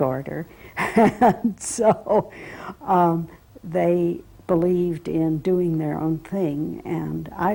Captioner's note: laugh